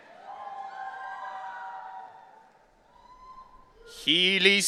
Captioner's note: audience cheering